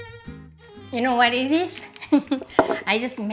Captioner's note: laughs